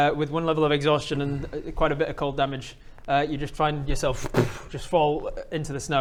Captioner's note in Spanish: booopf